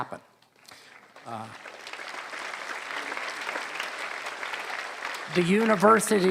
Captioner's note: applause